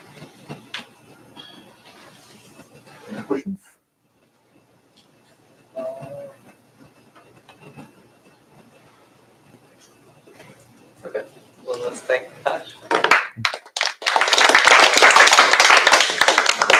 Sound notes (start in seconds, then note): 12.9 applause